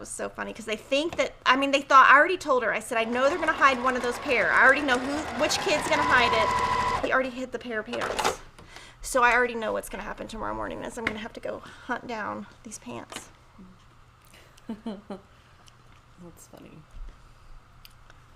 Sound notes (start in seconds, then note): 2.8 sewing machine whirrs; 14.6 chuckles